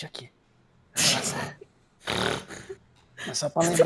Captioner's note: snorty laugh